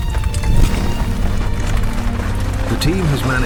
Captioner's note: footsteps